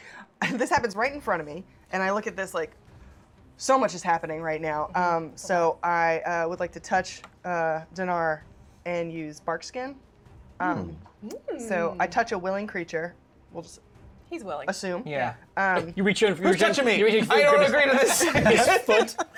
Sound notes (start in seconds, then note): 16.7 shouting